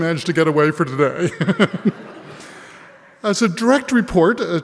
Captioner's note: laughs